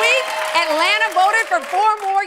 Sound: cheers and applause

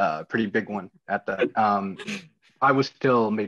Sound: laughing

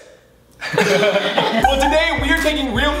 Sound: laughter

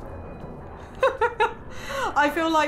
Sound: laughing

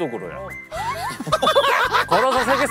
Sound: shaky legs/laughing

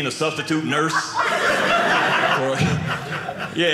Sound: audience laughing

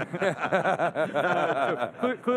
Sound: laughing

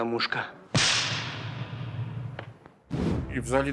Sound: sound of the slap

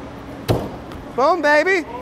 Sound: wood thumps

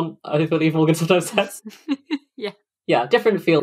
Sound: laughs

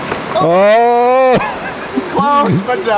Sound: giggling

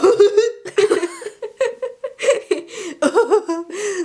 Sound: goofy laugh; they both laugh; goofy laugh again

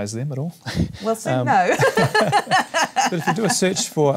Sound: laughs

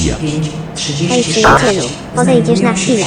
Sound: railway Station Announcement

